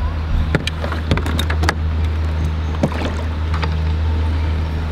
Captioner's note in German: Ruder klirrt ins Boot